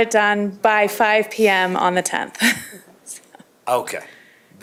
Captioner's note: laughter